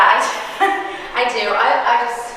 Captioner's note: chuckling